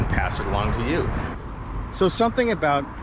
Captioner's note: street noise